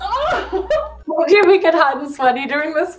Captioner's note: laughs